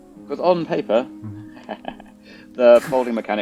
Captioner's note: ha ha ha